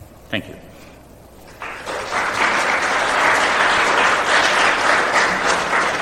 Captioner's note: applause